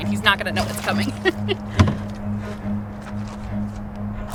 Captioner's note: laughs